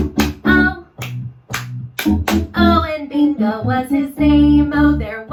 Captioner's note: clap, clap, clap-clap